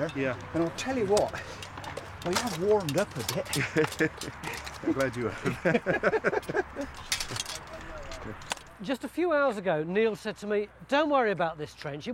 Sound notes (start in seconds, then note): 3.2 laughs; 5.7 laughing